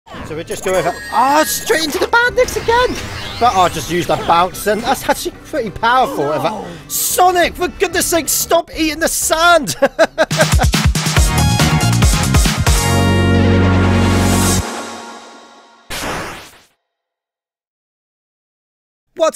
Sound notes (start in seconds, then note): 9.6 laughter